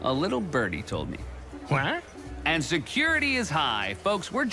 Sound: squawks

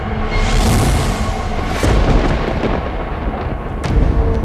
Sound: thundering

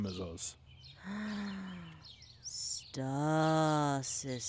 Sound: quiet gasp

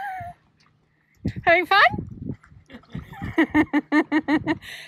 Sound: more giggling

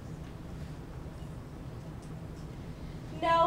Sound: whispers

